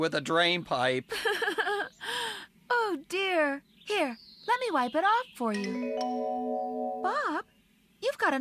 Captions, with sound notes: WITH A DRAINPIPE. ( Giggling ) OH, DEAR! HERE! LET ME WIPE IT OFF FOR YOU. BOB!